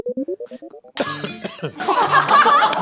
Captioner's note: choking